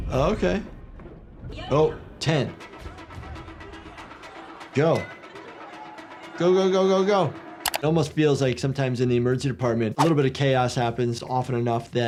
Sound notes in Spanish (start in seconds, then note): 1.9 El locutor habla en coreano; 2.6 jugadores hablando en coreano